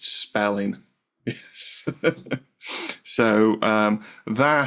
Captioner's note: chuckles